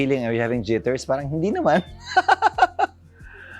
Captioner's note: laughs